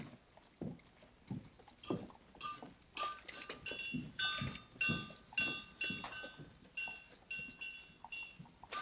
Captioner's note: blacksmithing clanging